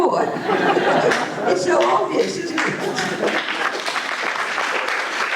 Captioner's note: applause